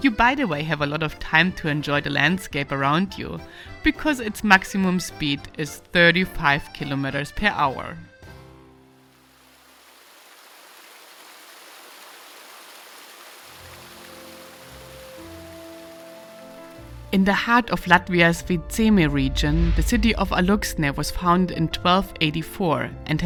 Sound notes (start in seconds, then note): 9.0 water spraying; 13.8 tranquil music